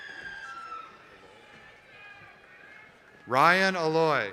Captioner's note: applause